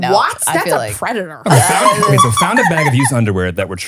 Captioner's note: laughing